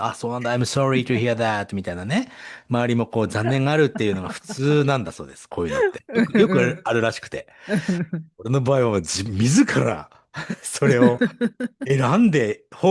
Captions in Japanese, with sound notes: Iamsrytohearthat みたいなね。周りもこう残念があるっていうのが普通なんだそうです。こういうのってよくあるらしくて。 [笑い] 俺の場合は自らそれをえなんでホームレスにホームレスの手前らしいです。この海外ではこういうです。 [笑い]